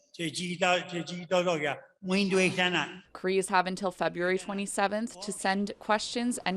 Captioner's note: speaking Native language